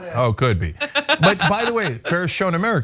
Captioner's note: laugh